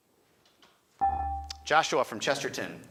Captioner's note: buzzer chimes